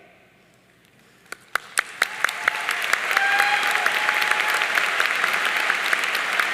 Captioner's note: audience cheering and applauding